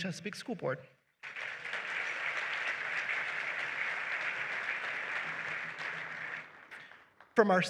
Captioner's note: applause